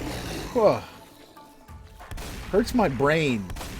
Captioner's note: sighs